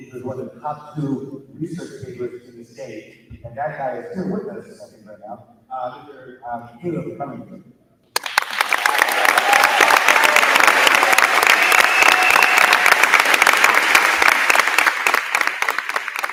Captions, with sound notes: These were the top two research papers in the state, and that guy is here with us right now. Here, he's coming right now. (crowd cheering) (crowd clapping)